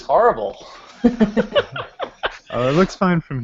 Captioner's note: laughter